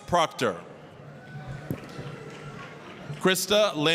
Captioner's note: applause, cheering